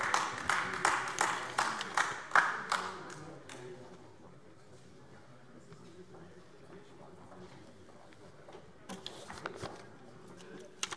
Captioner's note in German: Beifall AfD